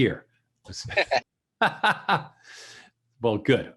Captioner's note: both laughing